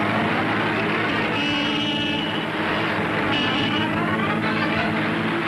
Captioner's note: vehicles horns honking